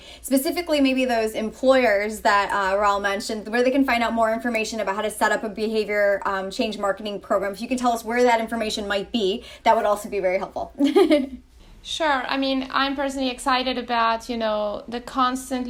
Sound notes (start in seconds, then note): 10.8 laughs